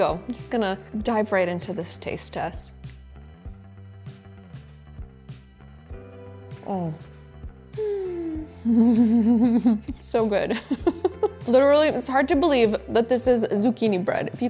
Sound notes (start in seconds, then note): 2.8 gentle music; 8.6 giggling; 10.2 laughing